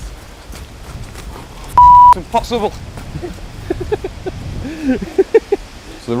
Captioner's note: beep; girly giggling